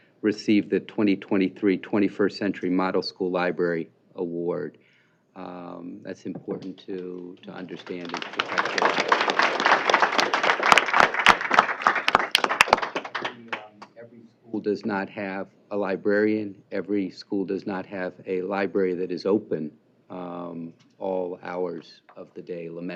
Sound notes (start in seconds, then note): 8.6 applause